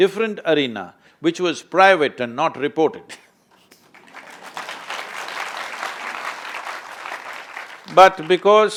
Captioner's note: applause